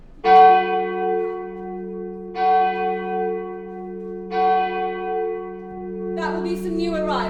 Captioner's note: church bells